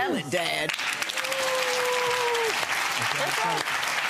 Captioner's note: crowd applauding